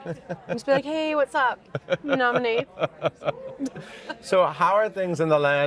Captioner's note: all laughing